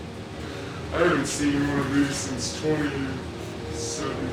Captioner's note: laughs